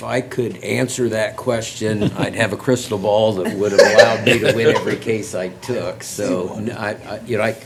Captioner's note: laughter